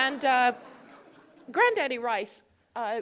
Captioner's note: laughter